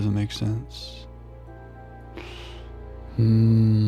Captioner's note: sniff